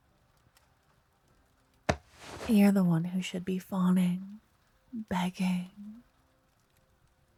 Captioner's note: whispered